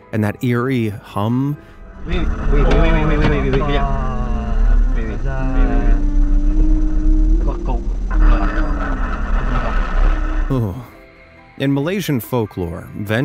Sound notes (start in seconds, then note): 8.2 radio static crackling; 10.4 narrator shudders